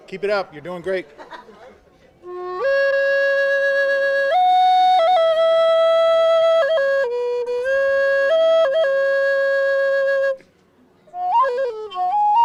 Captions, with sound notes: Keep it up, you're doing great. (woman laughs) (flute music)